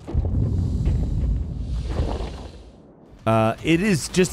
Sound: ominous shuffling

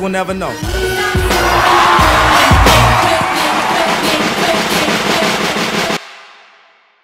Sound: audience Cheering

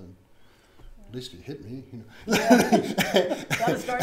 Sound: laughs

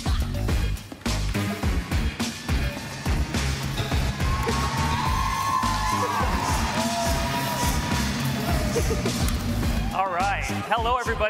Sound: applause

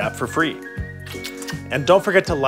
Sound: kissing

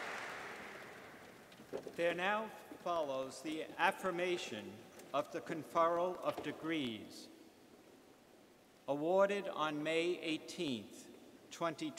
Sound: applause

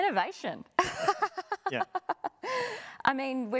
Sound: laughing

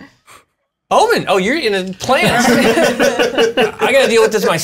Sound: laughter

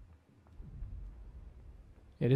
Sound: boom

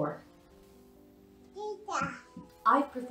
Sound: baby noises

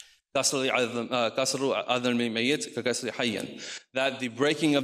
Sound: speaks in foreign language

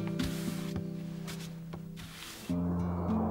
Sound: broom rustling along floor; wind blowing

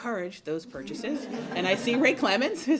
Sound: laughter

